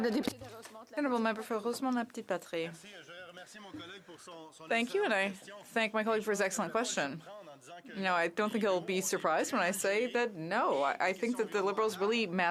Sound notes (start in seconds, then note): 3.8 speaking French